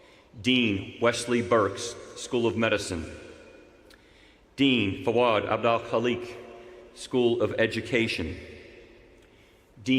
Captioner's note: none